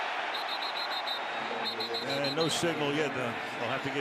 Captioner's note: referee blowing whistle